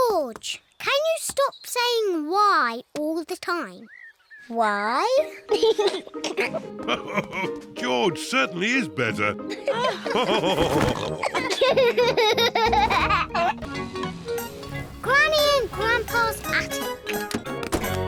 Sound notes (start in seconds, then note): 5.2 laughs; 5.2 giggles; 9.5 all laughing